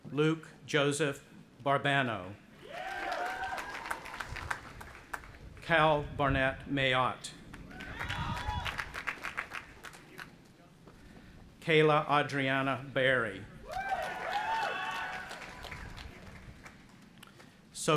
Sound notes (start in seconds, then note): 2.6 audience applauding and cheering; 7.6 audience applauding and cheering; 13.6 audience applauding and cheering